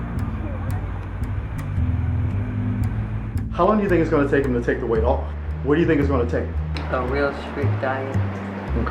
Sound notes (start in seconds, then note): 3.7 voiceover